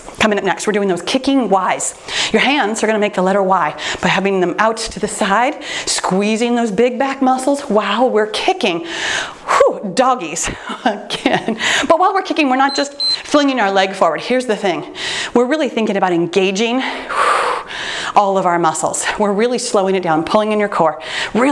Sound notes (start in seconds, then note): 10.8 laughing; 12.6 timer beeps